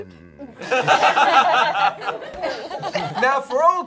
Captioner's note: all laughing